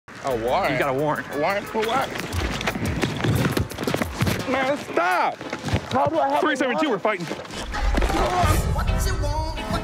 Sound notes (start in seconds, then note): 3.0 sound of struggle; 7.7 singing